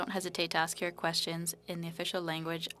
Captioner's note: speaking French